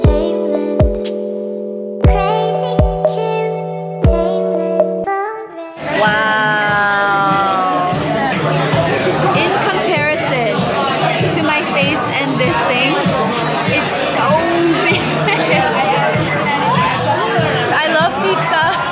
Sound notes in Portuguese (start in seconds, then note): 15.2 risos